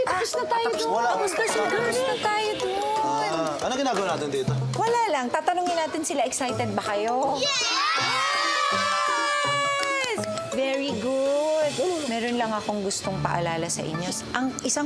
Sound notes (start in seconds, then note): 7.4 cheering